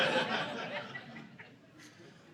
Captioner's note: audience laughing